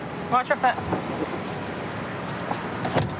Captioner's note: none